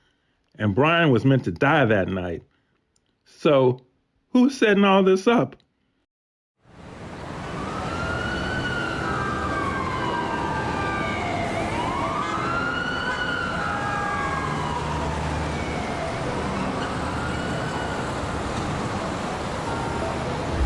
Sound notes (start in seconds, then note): 7.0 sirens blaring; 9.4 tense music; 11.9 horns honking